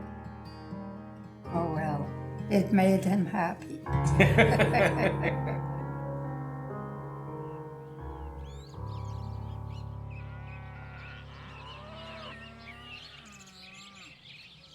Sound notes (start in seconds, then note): 4.0 laughter; 6.8 birds chirping; 9.7 cows mooing